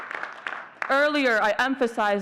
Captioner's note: audience cheering and clapping